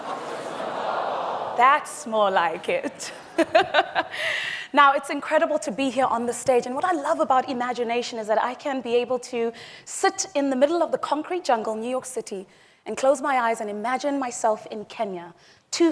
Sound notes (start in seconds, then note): 2.8 laughs